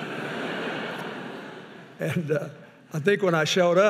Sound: audience laughing; chuckles

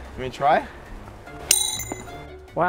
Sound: pinging sound

